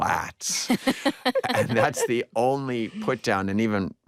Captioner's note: all laugh